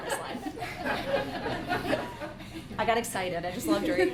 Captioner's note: laughs